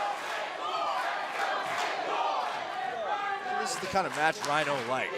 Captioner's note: crowd cheering